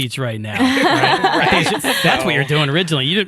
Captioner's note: all laughing